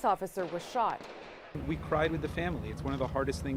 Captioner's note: gunshots